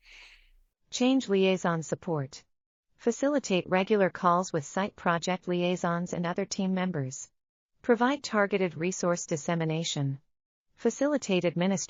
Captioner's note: audio Description being read